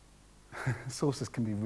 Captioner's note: chuckles softly